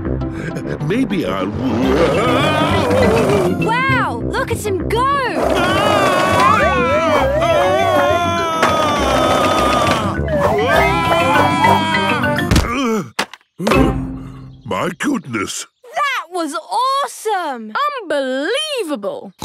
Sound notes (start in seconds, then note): 5.5 shouting; 13.2 panting